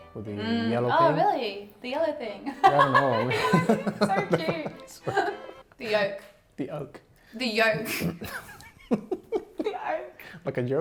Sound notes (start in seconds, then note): 2.6 both laughing; 8.4 laughing